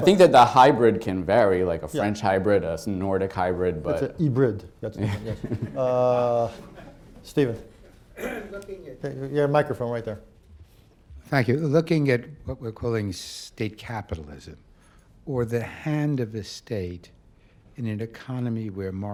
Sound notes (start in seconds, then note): 4.9 laughter